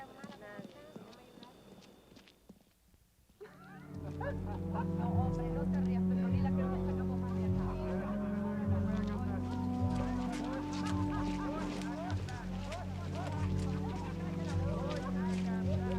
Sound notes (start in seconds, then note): 3.2 laughter, indistinct chatter